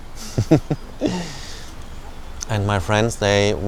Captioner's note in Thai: เสียงหัวเราะ